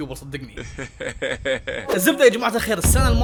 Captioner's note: laughing